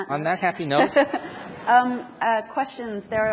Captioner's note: audience laughs